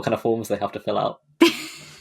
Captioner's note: laughs